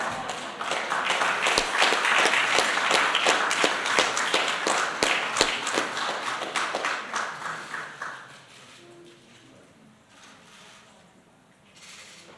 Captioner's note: applause